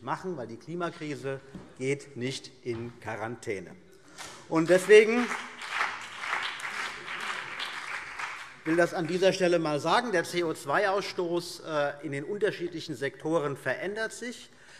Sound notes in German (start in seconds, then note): 4.4 Beifall CDU und BÜNDNIS 90/DIE GRÜNEN